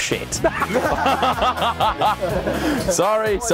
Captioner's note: laughing